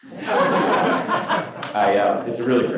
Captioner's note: crowd laughing